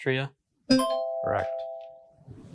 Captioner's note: bell dings